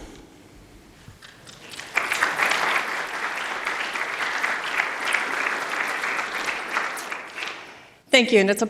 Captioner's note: applause